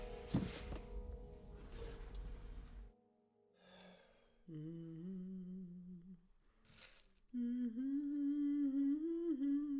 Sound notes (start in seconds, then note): 4.4 Zora humming "Masterpiece of You"